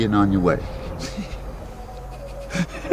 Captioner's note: laughs